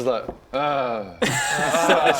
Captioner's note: tired grrrr